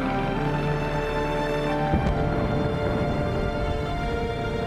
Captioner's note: bombs exploding